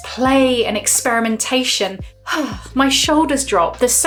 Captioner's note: sighs